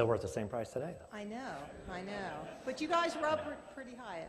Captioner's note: laughter